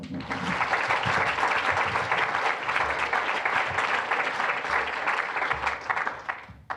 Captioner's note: applause